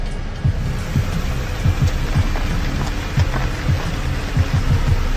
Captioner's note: car approaches